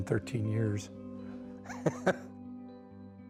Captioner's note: laughs